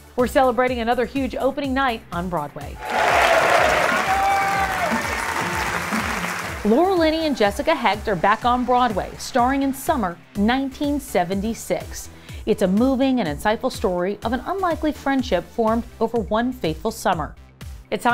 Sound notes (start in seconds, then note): 2.8 audience cheers